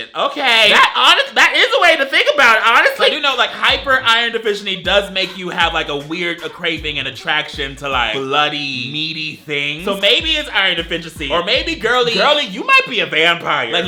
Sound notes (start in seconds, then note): none